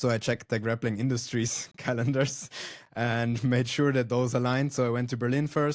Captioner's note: laughs